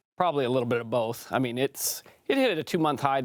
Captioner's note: French